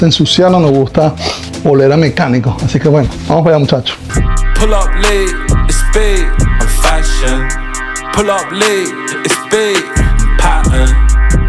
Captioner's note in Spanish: resoplido